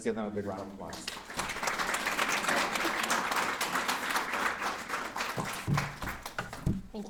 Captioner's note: applause